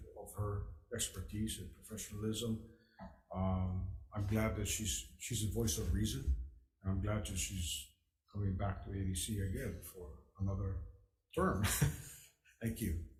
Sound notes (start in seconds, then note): 11.6 laughs